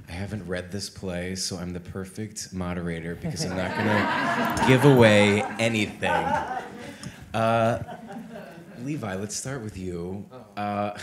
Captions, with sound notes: I haven't read this play, so I'm the perfect moderator because I'm not gonna give away anything. (all laughing) Levi, let's start with you.